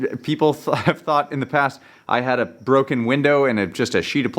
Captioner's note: chuckles